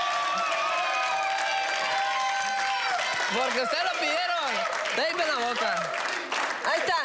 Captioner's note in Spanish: Gritos y exclamaciones